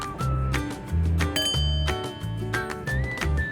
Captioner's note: bowl chimes; playful music